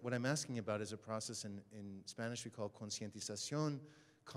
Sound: speaks Spanish

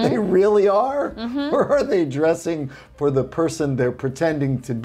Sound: chuckles

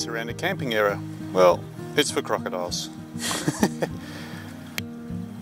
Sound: laughs

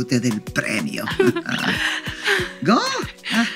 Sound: laughing

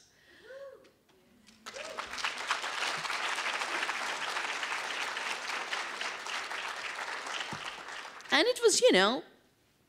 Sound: applause

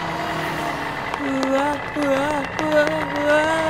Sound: vehicle sounds and sirens

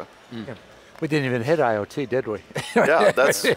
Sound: laughs

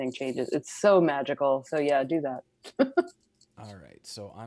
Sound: laughs

